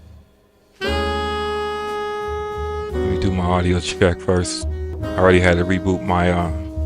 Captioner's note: upbeat Music; engine Revving